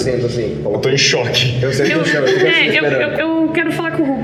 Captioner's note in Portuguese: risada